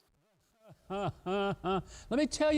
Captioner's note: laughs mockingly